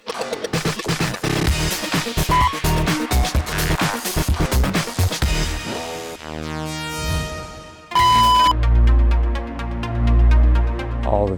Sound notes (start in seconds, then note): 0.1 upbeat music; 7.9 beep; 9.0 dramatic piano music